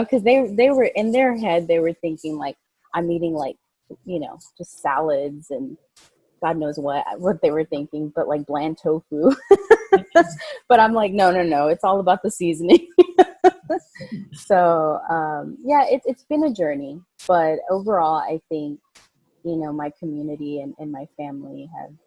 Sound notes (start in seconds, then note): 9.6 laughing; 13.0 laughing